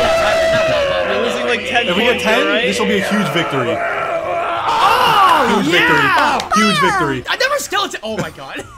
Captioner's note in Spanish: agonizando